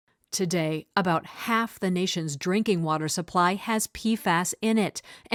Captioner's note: voice-over